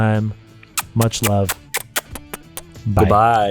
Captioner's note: kisses